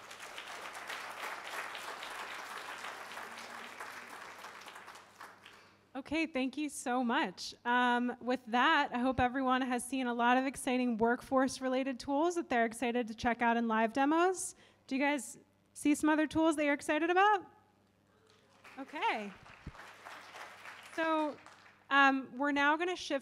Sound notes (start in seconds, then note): 15.2 applause